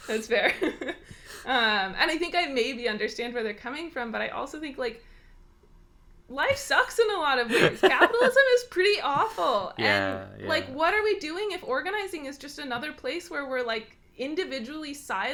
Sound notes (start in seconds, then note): 7.4 laughs